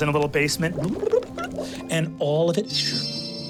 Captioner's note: sound of bong bubbling